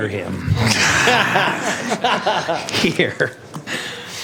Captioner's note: laughter